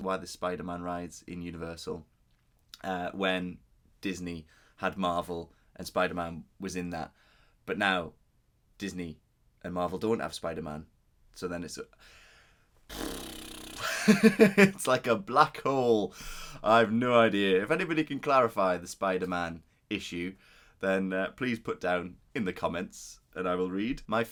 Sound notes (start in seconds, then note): 12.9 deep Exhale